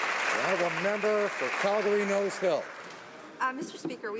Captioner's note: applause